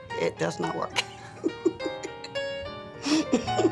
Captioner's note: laughing